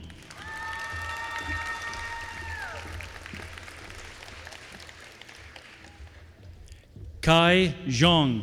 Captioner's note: applause